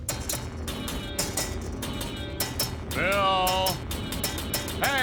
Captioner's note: <i> low and high-pitched</i> <i> clanging</i>